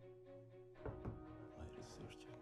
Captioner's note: knocking